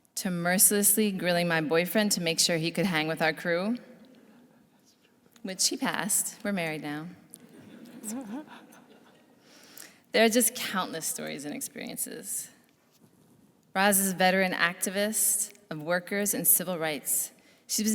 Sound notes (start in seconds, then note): 7.5 laughs; 7.5 audience laughs